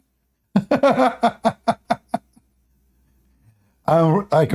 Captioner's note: Ketawa